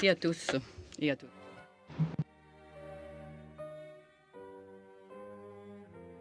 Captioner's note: speaking French